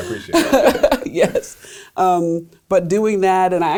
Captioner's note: laughs